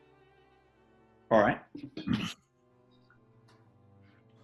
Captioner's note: sniggers